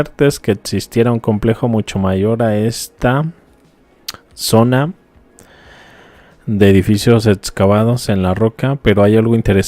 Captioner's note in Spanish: suspiro